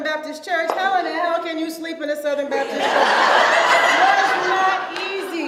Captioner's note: audience laughs